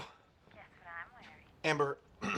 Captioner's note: clears throat